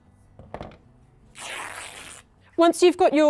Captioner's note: tearing